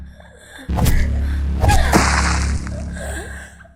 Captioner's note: splash